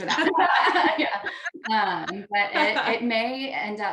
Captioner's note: all laugh